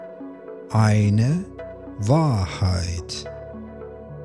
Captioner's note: german